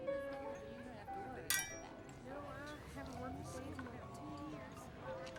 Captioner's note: glasses clinking